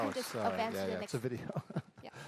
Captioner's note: applause